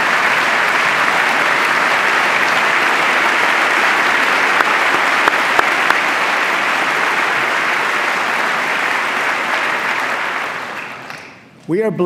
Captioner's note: applause